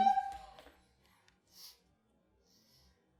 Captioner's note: sobbing; sniffling